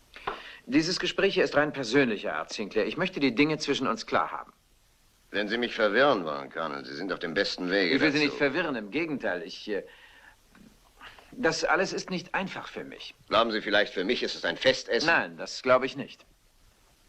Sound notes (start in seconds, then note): none